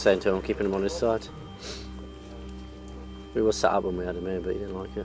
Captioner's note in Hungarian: horkantás